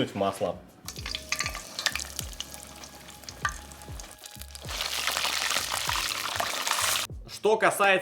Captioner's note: hissing